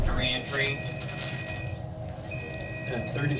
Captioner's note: alarm beeping